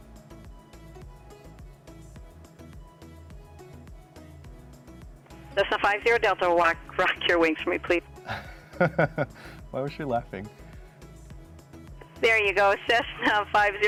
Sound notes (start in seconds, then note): 8.2 laughs